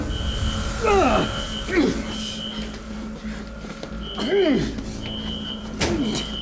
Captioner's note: Malkam groaning in pain